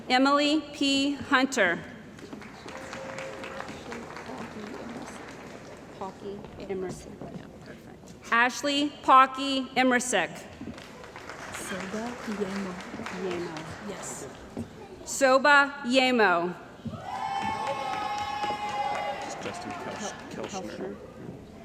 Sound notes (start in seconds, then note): 2.1 applause; 10.7 applause; 16.9 cheering & Applause